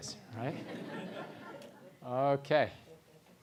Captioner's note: laugh